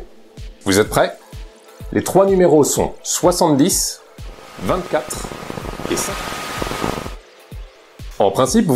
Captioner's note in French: brouillage